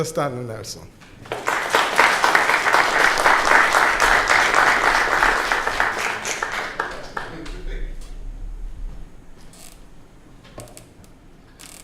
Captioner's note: clapping